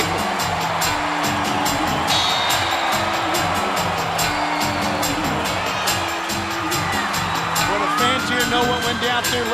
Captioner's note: crowd cheering